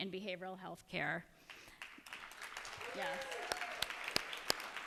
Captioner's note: cheers and applause